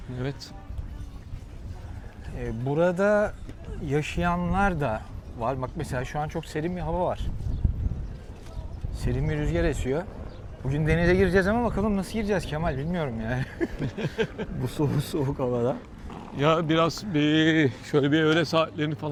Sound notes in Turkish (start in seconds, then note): 13.3 kahkaha